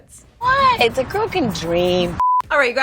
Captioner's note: high pitched beep